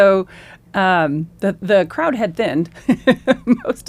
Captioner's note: laughs